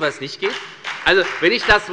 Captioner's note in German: Beifall bei der FDP